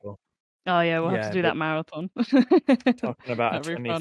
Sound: laughs

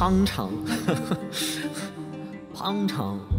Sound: cute ass laugh

